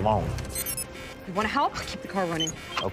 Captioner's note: keypad beeping